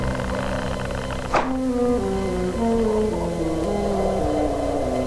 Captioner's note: wind howling; wood knocking; eerie music